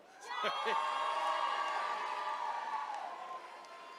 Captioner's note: attendees cheering